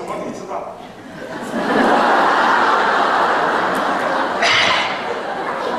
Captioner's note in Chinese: 哄堂大笑